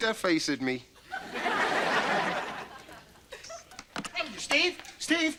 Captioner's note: audience laughter